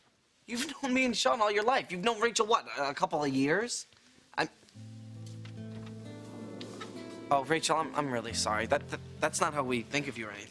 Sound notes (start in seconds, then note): 4.8 sad guitar notes; 6.2 audience booing